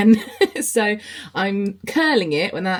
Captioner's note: laughs